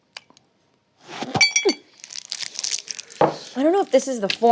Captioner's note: candy rattles